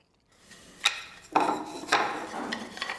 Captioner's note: soft clatter